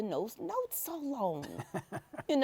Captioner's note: chuckles